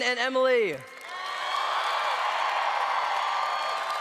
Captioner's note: applause